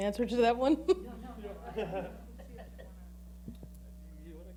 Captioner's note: laughing